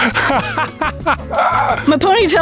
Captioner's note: laughing